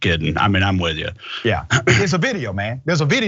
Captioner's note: cough